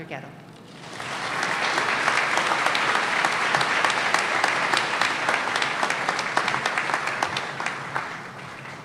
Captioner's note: applause